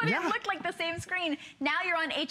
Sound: laughter

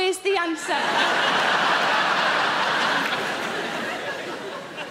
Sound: audience laughing

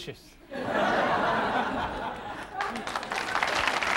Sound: audience laughing; audience applauding

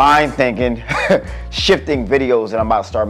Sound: laughs

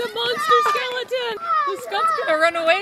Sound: kids yelling

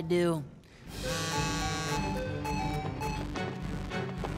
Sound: buzzing, chiming

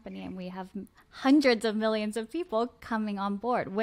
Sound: none

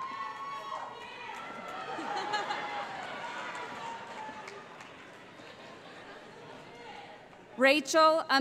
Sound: cheering, laughter

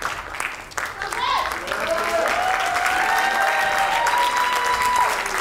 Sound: audience cheering

